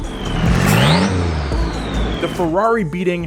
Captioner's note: engine roaring